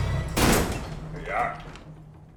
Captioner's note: door bangs